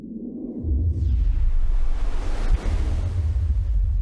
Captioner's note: wind rushes